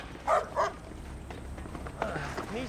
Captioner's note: dog barks